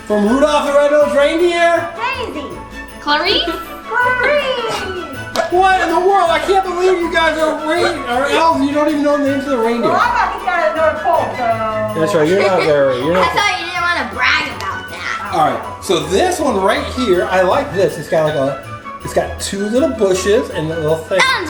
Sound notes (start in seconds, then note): 2.3 jangle; 4.2 jangle; 10.1 jangle